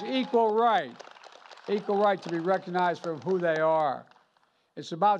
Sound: applause

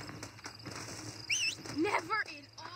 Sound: hisses his horse

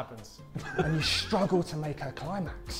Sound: Sidemen laughing

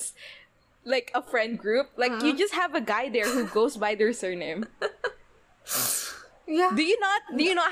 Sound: laughs

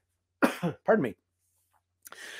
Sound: coughs

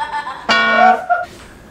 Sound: laughter; bonking sound

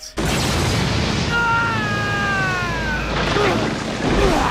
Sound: loud crash

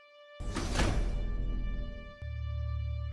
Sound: door opens

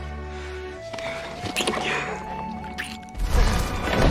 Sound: kissing

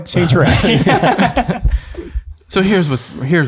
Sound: group laughs

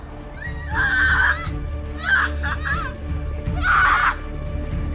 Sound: kids screaming; Carl screaming; suspenseful music

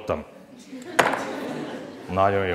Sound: laughter

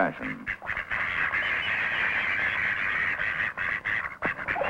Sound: duck sounds

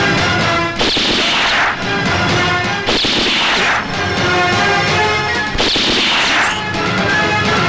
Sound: gunshots

